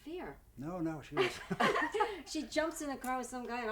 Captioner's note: laughing